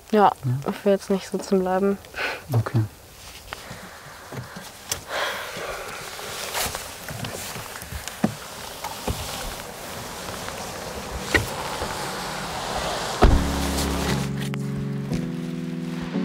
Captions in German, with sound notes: Ja, ich will nicht sitzen bleiben. - Okay. (Sie atmet tief aus.) (Getragene Musik)